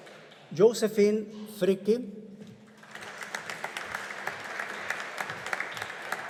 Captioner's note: audience applauding